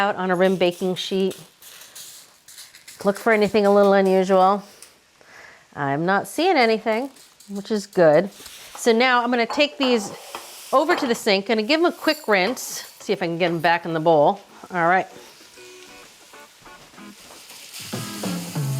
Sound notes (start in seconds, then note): 0.4 lentils clattering; 15.5 upbeat jazzy music